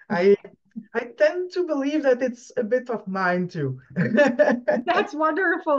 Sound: laughs

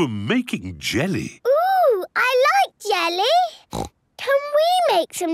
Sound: snorts

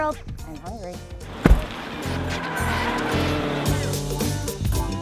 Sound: upbeat music; engine running

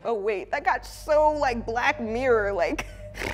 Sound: snorts

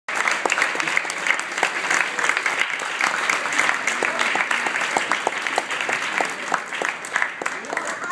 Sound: audience claps

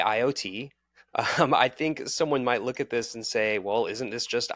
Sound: chuckling

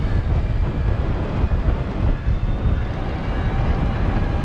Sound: wind whooshing

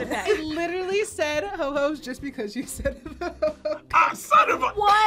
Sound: laughs

